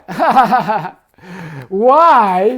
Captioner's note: man laughing